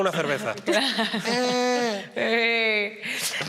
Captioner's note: laughs